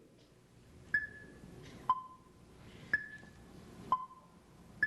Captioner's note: clock ticking